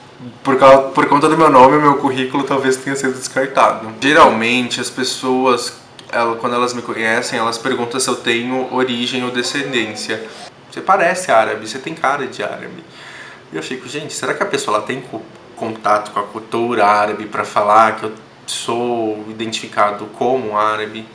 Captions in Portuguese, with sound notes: Eu acho que, por conta do meu nome, talvez meu CV tenha sido descartado. Quando as pessoas me conhecem, geralmente elas me perguntam se eu tenho origem ou descendência [árabe]. "Você parece árabe. Você tem cara de árabe." E eu me pergunto se a pessoa tem contato com a cultura árabe para falar que eu sou identificado como árabe.